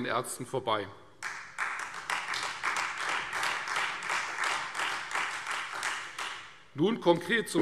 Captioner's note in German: Beifall Freie Demokraten